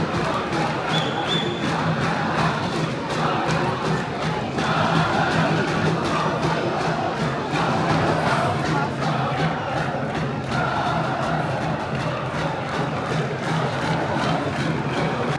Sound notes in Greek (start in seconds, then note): 3.3 χειροκροτημα